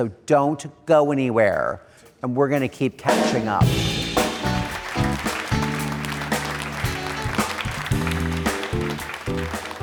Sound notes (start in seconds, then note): 3.2 upbeat music; 3.7 audience applauding